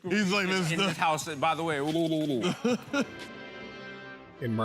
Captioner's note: laughter